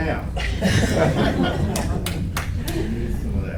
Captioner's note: laughter